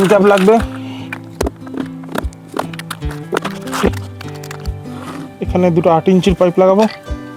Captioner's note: sound of legs being fitted